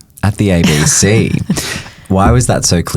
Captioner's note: chuckles